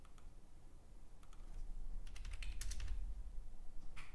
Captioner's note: keyboard clicking